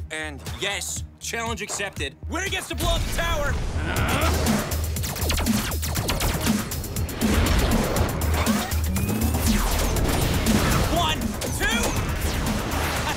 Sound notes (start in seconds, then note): 4.6 weapons firing